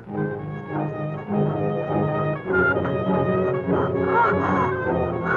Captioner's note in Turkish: Özgün film müziğine kadın inleme sesi karışır